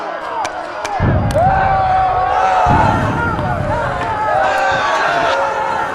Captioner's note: lots of screaming